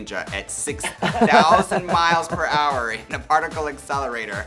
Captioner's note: Baga chuckles